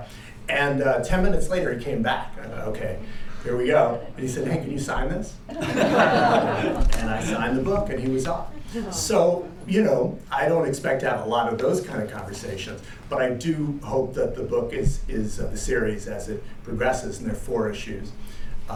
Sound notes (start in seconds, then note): 5.5 laughter